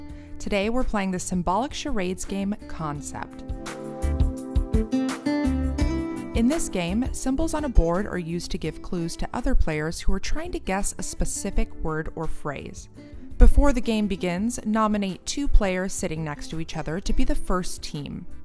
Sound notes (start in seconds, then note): none